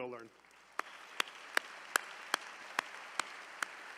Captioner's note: all applauding